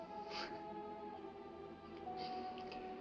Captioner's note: scoffs